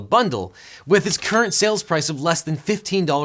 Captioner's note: bell chiming